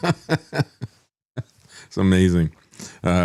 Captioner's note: laughs